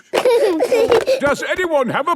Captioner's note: giggling